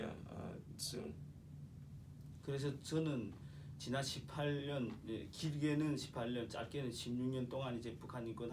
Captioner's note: speaking korean